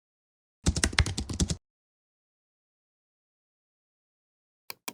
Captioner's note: keyboard clacking